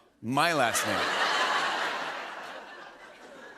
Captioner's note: laughter